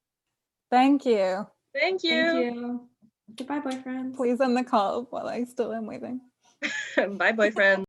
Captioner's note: laughter